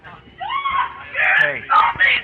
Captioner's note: nurse screaming